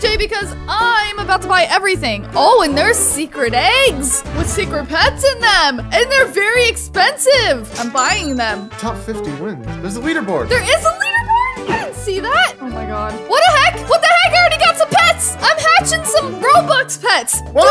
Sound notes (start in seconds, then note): 7.8 cash register dings